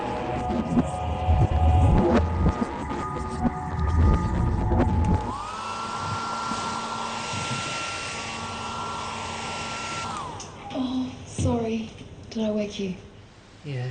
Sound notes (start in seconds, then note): 4.6 hair dryer echoes